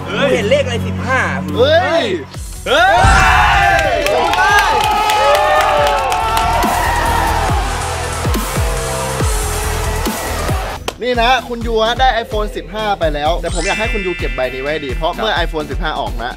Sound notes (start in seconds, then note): 6.4 cheering; 7.2 upbeat music playing